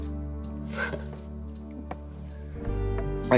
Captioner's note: chuckles